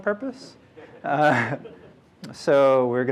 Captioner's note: laughter